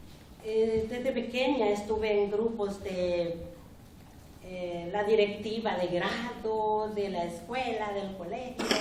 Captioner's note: speaking spanish